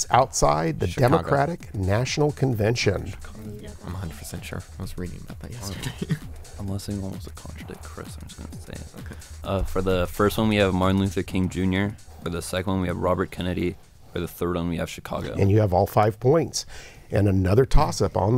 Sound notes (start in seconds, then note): 4.7 whispering